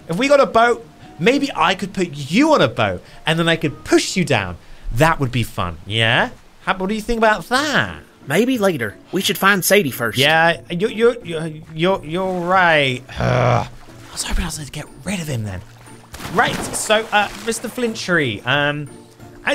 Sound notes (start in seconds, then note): 13.0 grunts; 18.2 water splashing